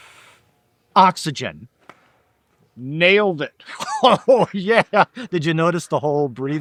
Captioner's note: laughing